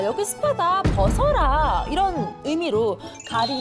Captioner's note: confident sound effect